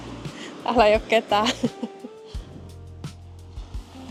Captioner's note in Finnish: naurua